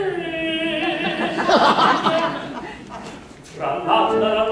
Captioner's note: laughter